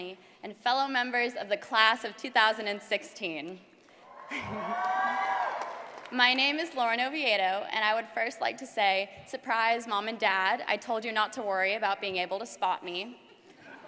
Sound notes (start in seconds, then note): 4.1 laugh; 4.3 applause